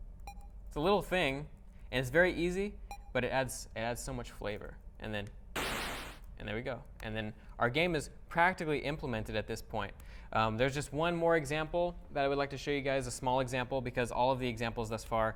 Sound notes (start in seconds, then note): 5.5 explosion